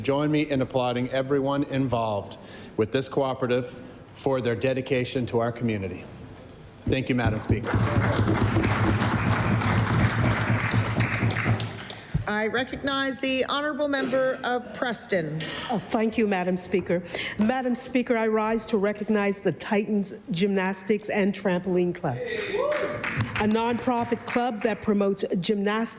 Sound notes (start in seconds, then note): 9.7 applause